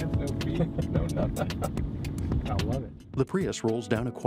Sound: laughter

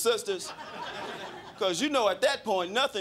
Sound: crowd laughing

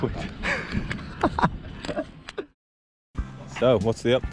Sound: laughing

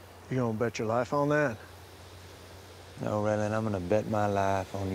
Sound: none

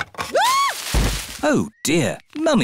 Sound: screams; thuds

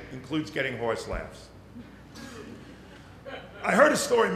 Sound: little laughter

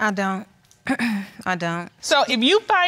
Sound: clears throat

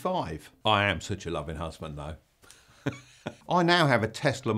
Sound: chuckles

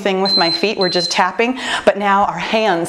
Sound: timer beeping

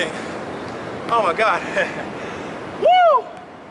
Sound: laughs

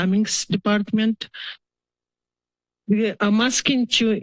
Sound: pause

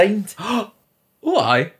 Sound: gasp

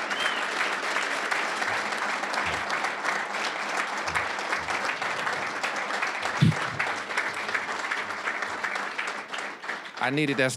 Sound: applause

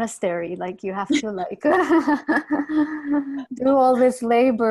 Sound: laughs

